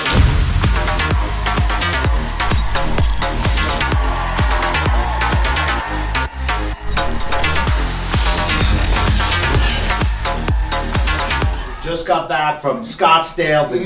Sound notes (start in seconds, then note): 0.1 upbeat music; 4.3 crowd cheering